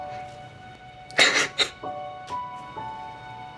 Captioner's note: weeping